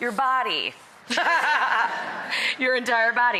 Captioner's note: audience laughs